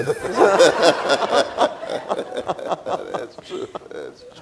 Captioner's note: audience laughing